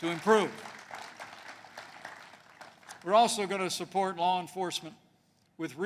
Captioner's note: applause